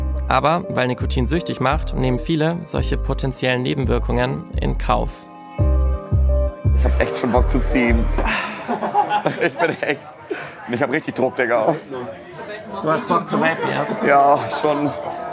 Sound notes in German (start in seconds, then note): 5.6 Unruhige Musik; 8.1 Lachen